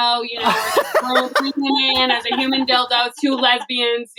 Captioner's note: laughs